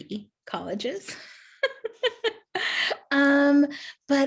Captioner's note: laughing